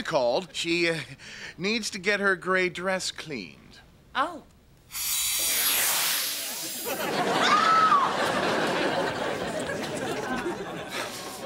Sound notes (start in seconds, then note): 7.3 screams; 9.9 sighs